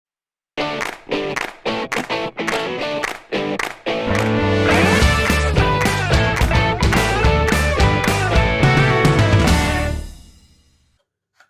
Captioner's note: claps